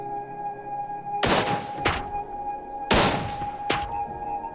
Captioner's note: gunshot